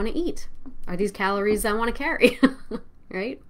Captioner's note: laughs